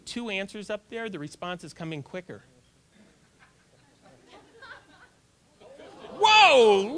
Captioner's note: audience laughter